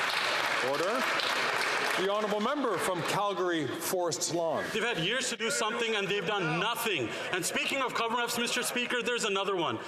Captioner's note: some Applause